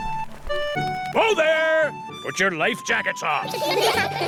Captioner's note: all giggle